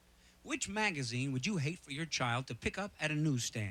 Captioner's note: none